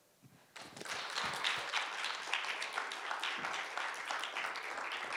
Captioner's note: audience applauding